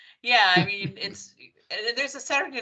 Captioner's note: laughing